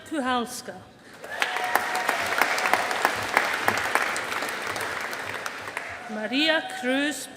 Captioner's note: audience applauding